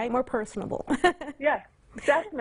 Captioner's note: giggles